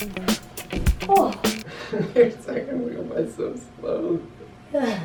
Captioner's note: laughing